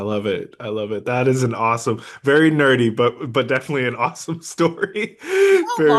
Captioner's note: laughs